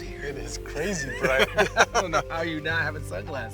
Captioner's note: Baratunde laughs